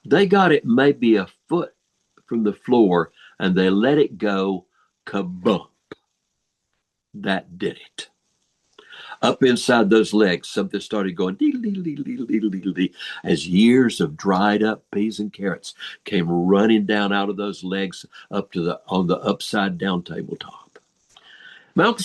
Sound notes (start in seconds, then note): 11.2 imitating falling sounds